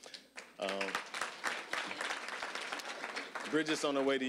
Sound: applause

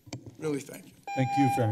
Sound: timer rings

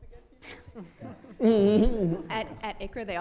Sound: audience laughter

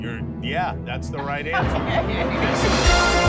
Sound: laughing

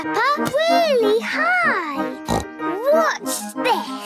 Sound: snorts

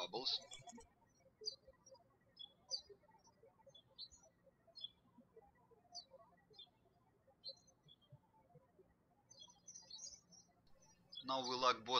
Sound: birds chirping

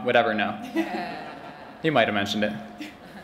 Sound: laughter

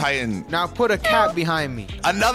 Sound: cat meows

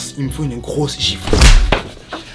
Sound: slap

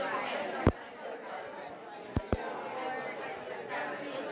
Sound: people chatting

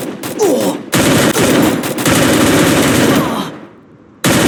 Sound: game Battle Sound Effects

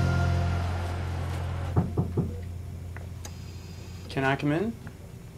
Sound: knocking

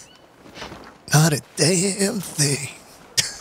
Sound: laughs

